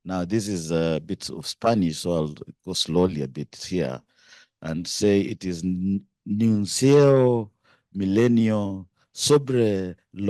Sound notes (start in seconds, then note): 6.2 speaking Spanish